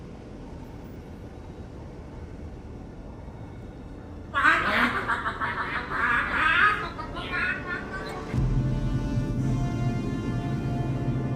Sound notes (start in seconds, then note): 6.0 laughing uncontrollably; 8.1 epic music playing